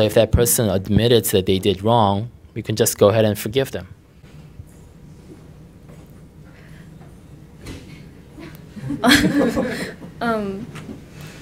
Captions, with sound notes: So if that person admitted they did wrong, you can just go ahead and forgive them. (Questioner laughter) Um..